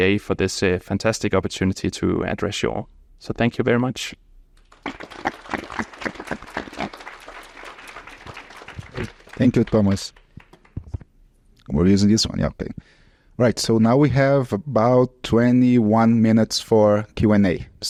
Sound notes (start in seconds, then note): 4.6 audience applauds